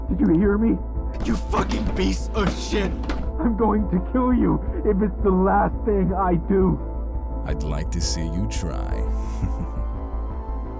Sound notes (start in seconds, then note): 8.8 chuckles